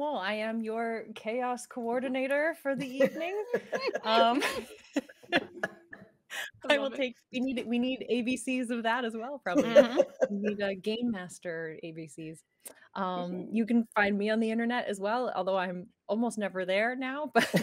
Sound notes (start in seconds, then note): 2.8 people laughing